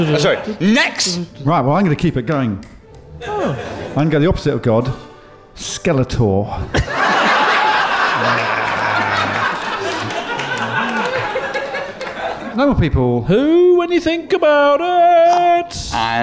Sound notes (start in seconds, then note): 6.7 laughter